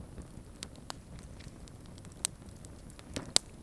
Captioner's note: fire cracking